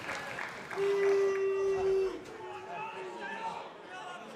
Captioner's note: crowd chatter